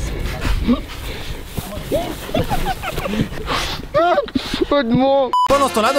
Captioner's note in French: rires